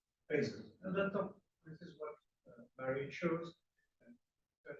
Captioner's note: french